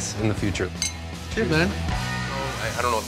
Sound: glasses clink

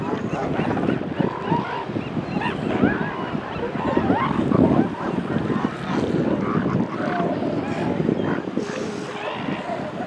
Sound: seagull calls; wind continues

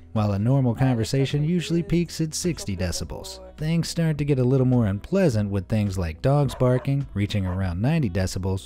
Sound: none

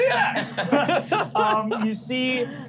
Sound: laughing

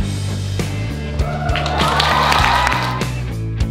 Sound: spectators clapping and cheering; bright upbeat music

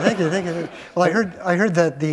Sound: laughter

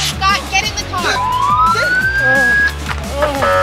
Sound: police sirens

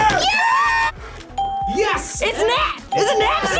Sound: bell rings

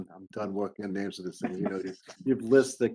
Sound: speaking faintly

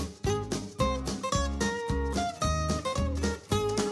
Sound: none

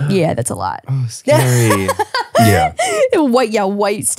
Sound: laughing

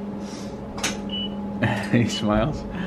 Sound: beeping; laughs

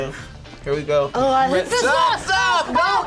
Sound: laughs; gags

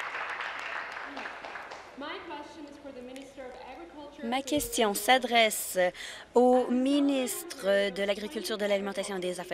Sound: applause

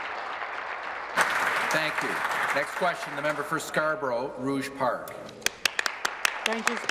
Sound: applause

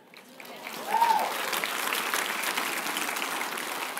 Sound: applause

